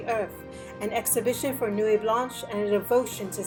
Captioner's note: speaking in foreign language